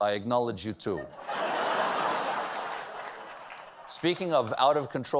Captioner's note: laughter